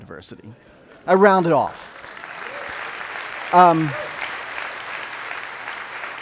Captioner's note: audience clapping